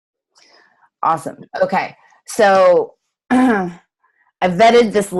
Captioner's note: clears throat